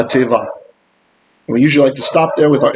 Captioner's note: Hebrew